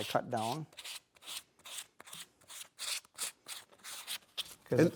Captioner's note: pad scratching